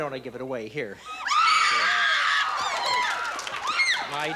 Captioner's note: screaming